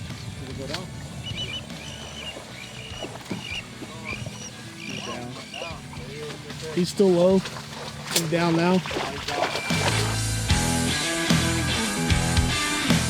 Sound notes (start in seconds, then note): 0.2 birds chirping; 0.2 faintly speaking; 9.0 water splashing; 9.7 upbeat metal music